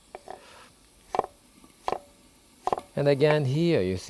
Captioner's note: knife chopping